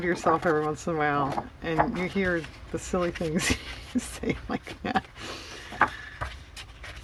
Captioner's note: laughs